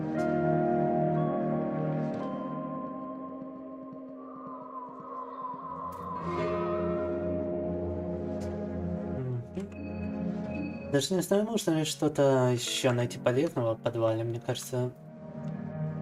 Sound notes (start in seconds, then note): 0.1 soft music; 2.5 speaking in foreign language